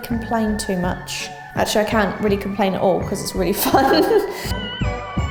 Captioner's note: laughs